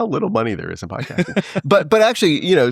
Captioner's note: laughing